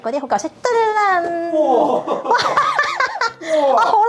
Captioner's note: hahahaha~~~